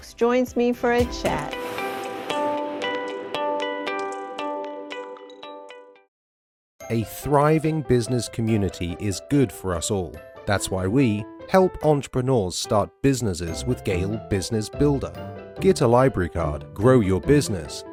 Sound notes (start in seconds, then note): 0.9 bright music fading; 6.9 voiceover